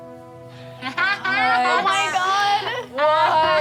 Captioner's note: all laugh